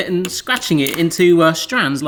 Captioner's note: none